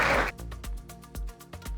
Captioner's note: clapping